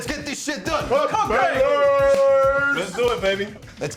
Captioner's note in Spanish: gritante